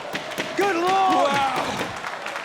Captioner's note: applause